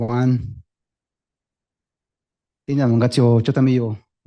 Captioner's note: speaking spanish